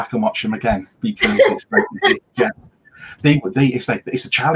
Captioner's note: voice fades